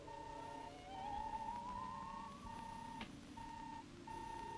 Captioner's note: robot beeping